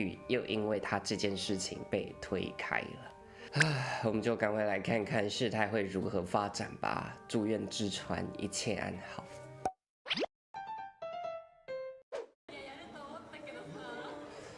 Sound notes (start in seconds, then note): 3.4 sighs